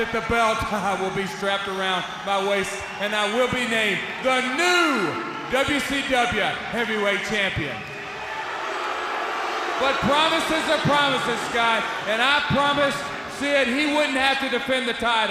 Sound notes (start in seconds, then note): 7.9 crowd cheering